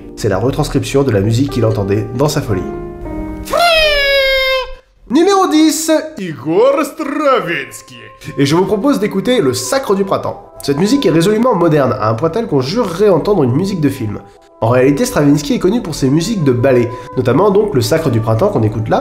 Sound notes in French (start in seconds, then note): 3.4 bruit de sifflet de fête; 5.9 accent russe